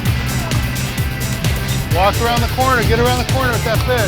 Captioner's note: murmuring; rattling